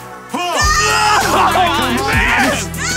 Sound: shouting

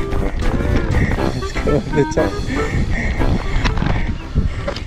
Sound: laughs

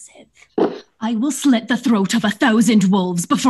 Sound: Scottish accent

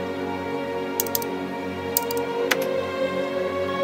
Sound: clicking

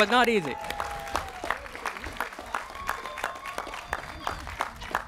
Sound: cheering

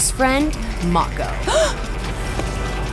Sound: gasping

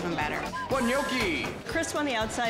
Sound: whistle blowing

